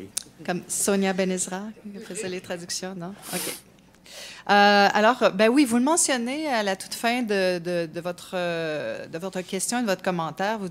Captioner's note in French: rires